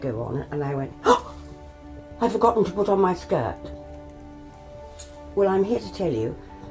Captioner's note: gasps